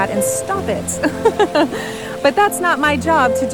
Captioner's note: narrator laughs